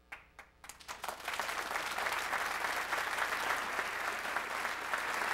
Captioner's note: applause